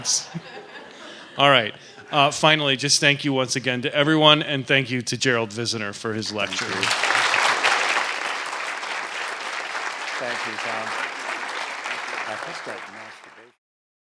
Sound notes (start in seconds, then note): 0.0 laughter; 6.2 applause